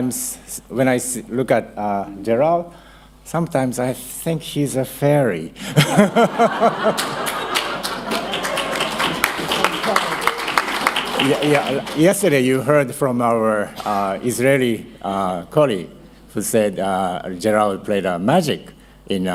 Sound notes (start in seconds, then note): 6.8 applause